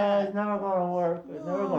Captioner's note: sobs